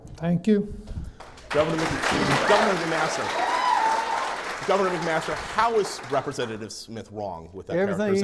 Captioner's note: clapping